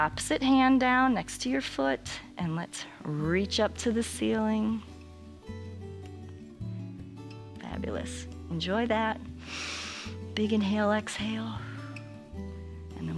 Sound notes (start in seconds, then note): 9.4 inhales; 12.2 exhales